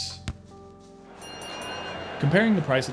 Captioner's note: boxing bell rings